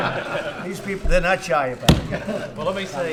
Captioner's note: laughter